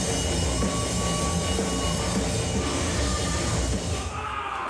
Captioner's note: crowd cheering